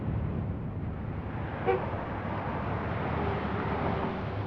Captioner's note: car hoots